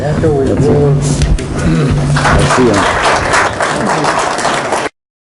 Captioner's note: applause